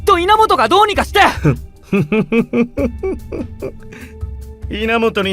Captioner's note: cringe evil laugh